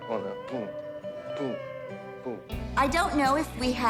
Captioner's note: dance noises